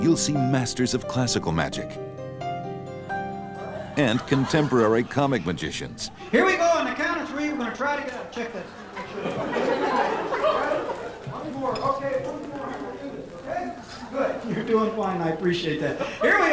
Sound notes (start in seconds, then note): 10.0 audience laughing